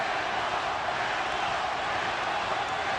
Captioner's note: loud cheering